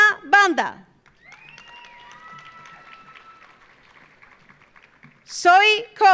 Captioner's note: audience applauding; audience cheering